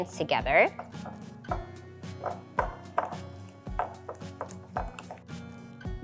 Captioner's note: gentle music; bowl tapping